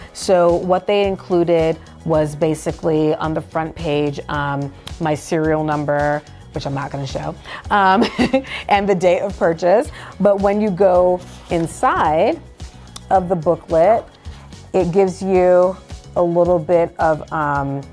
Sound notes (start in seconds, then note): 8.2 laughs